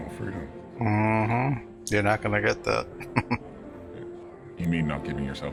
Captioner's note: chuckling